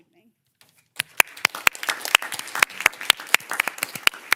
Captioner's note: everyone claps